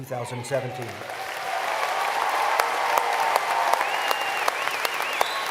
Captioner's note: applause